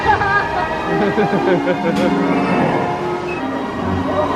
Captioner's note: laughs